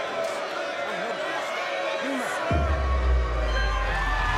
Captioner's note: crowd cheering